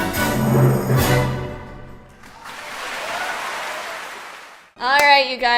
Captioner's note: clapclapclapclapclapclapclap